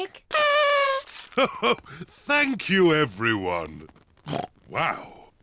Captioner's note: kazoo trumpets; chuckles; oinks